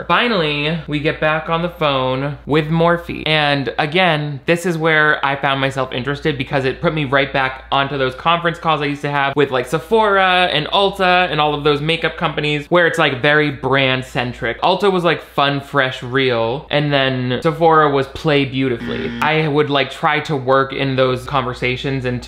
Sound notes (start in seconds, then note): 18.8 buzzer